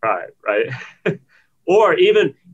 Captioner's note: laughs